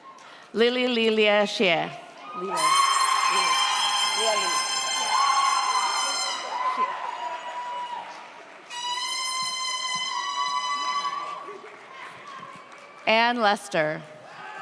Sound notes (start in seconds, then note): 2.2 audience cheers; 2.5 horn blows